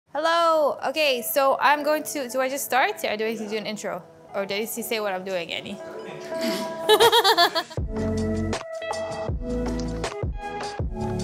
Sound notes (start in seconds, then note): 6.4 laughs; 8.2 upbeat music